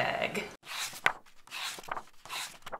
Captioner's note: pages turning